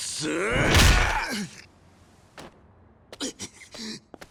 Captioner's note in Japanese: うめき声